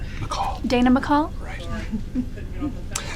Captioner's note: chuckles